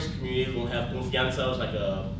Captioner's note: speaks in foreign language